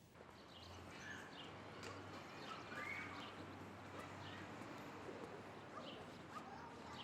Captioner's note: birds chirp; kids scream and play